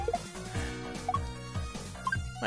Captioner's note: sigh